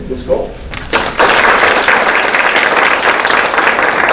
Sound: applause

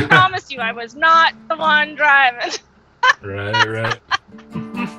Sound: chuckles

